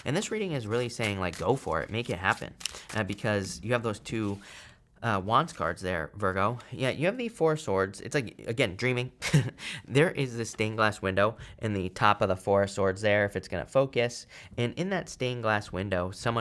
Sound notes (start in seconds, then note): 9.4 chuckles